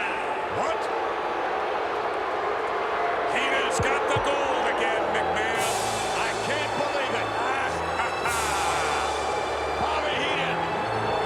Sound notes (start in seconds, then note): 1.4 audience booing; 7.6 Jesse laughing